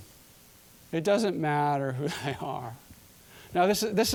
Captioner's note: chuckling